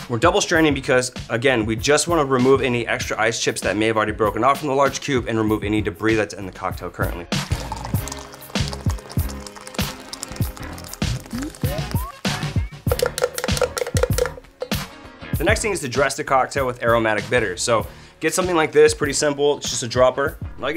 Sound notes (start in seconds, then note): 6.4 liquid pouring; 12.8 clattering shaker